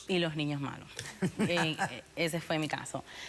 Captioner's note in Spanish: risas